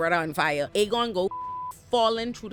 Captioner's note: beep